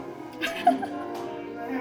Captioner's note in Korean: 웃음